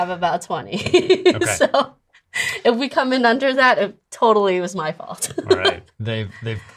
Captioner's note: laughs